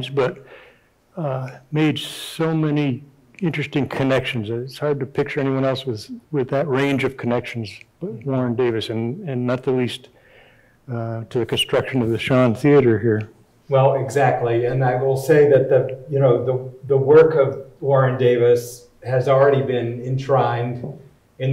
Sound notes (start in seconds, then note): none